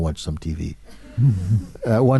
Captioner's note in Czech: smích